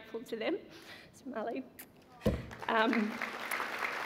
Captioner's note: applause